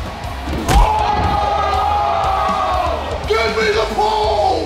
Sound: cheering

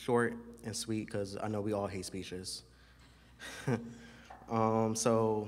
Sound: laughs

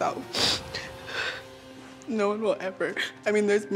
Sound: sniffling

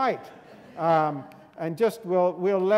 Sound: students laughing

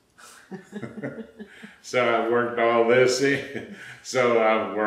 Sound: laughter

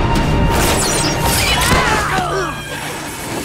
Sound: screaming

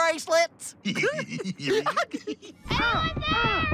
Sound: both giggling

